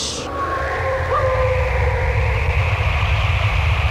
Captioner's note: wolves howling